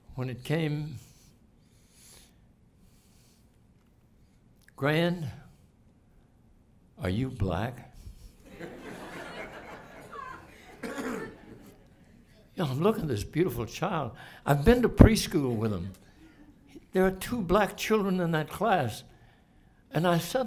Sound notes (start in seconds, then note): 8.4 laughter